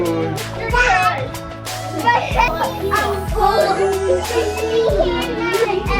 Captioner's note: children all talking in excitement